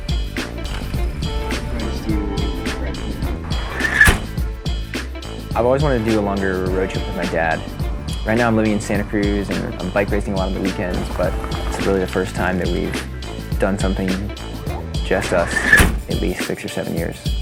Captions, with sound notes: (crickets chirping) (car door closes) I've always wanted to do the Long Barrier Ridge with my Dad. Right now I'm living in Santa Cruz and I'm bike racing a lot on the weekends but it's really the first time that we've done something, just us in at least six or seven years.